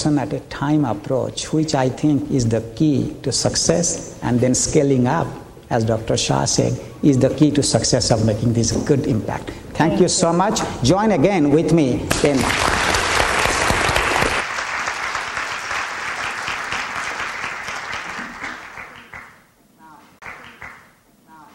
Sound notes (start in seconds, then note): 12.8 applause